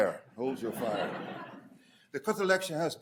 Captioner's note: audience laughing